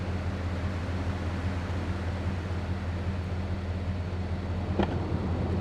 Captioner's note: engine roaring